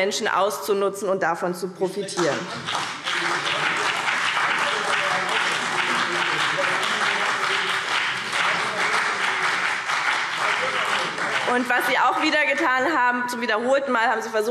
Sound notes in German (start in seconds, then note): 2.2 Beifall BÜNDNIS 90/DIE GRÜNEN – Zurufe AfD